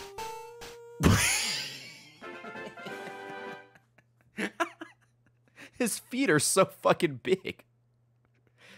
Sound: laughs

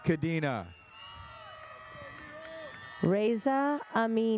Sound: audience cheers

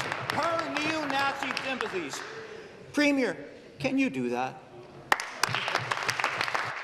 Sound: some Applause

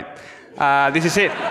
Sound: audience laughs

